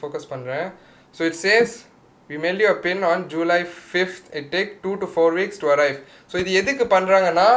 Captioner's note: english Dialogue